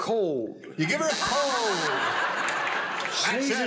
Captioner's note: buzzer